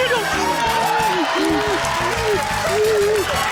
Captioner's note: rapturous cheering